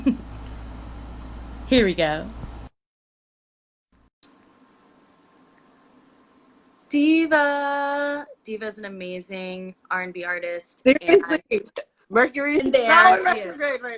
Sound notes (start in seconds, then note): 0.6 laughs